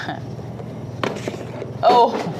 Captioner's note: chuckling